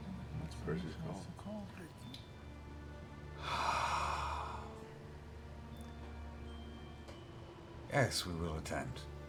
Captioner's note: sighs